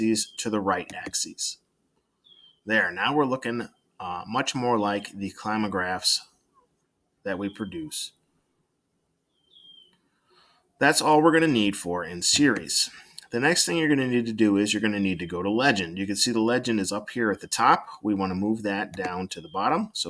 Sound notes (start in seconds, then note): 9.2 silence